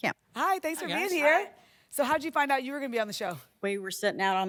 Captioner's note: none